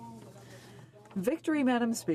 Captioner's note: speaking French